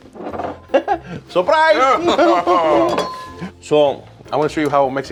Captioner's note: laughing